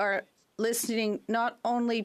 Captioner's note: speaking French